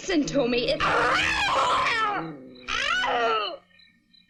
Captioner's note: bea screams; hisses